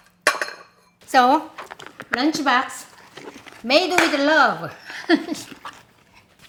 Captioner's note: laughs